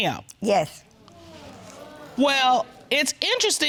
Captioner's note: audience sighing